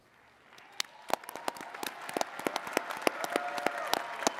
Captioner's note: attendees clapping